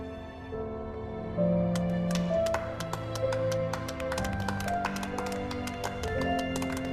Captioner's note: applause